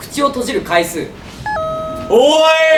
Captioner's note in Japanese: ピンポーン